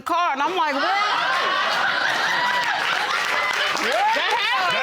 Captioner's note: audience laughing